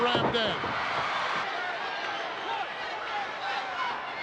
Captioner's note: crowd yelling